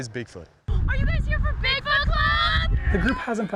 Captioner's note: people talking